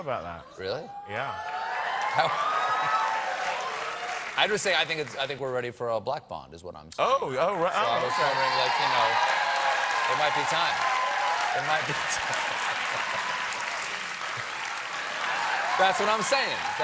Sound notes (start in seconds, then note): 7.5 audience reacts; 14.4 cheers and applause